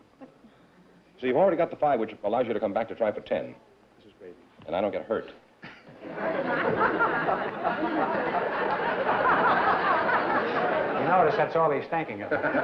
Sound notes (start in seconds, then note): 5.7 laughter